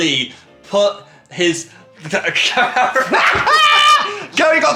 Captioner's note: all laughing